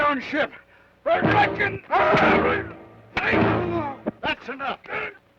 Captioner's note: Joshua groans